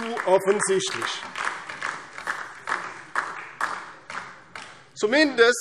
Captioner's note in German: Beifall DIE LINKE